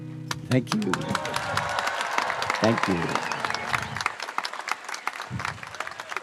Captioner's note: audience applauding